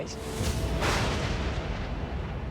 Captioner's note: thundering